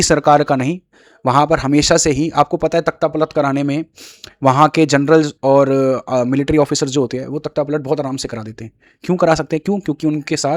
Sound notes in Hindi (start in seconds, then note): 4.0 नाक से की जाने वाली आवाज़